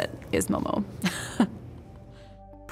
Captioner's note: chuckles